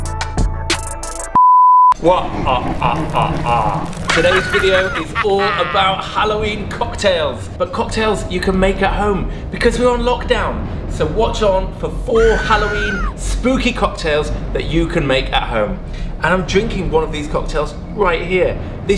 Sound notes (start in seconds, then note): 2.0 dark creepy music; 2.2 laughs wickedly